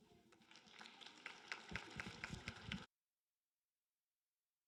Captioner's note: applause